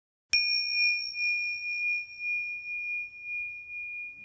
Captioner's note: bell rings